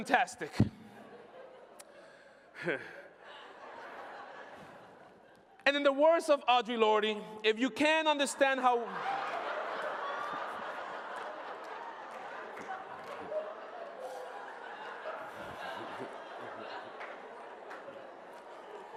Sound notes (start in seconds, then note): 14.3 laughter